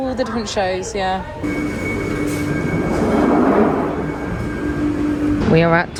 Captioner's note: train station ambience